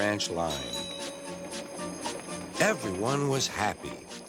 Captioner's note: bell dings